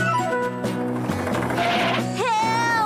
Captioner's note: tires Squealing